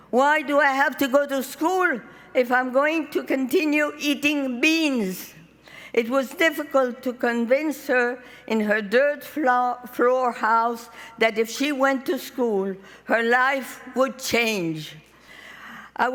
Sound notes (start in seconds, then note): none